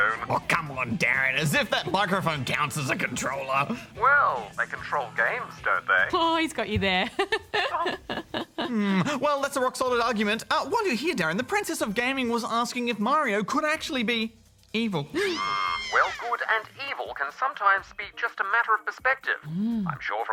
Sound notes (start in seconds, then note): 15.1 gasps; 15.1 screaming